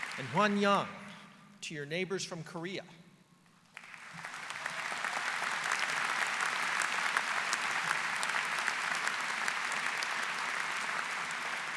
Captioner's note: applause